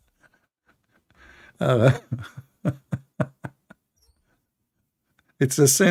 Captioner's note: Ketawa